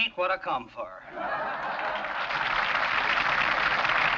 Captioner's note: crowd applauds